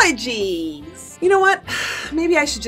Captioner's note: sighs